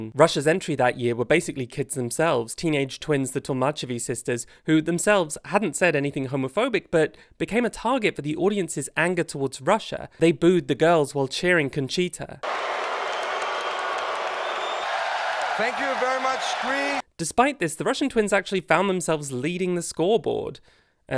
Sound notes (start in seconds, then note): 15.7 audience boos; 15.7 audience cheers